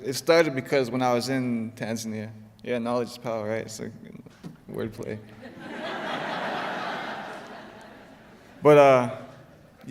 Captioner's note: laughter